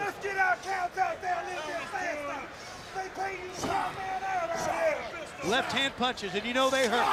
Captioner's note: crowd chatter